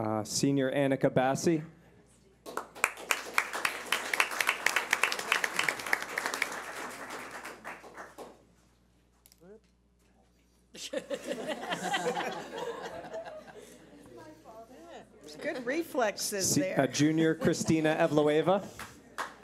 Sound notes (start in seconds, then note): 2.4 clapping; 10.8 laughter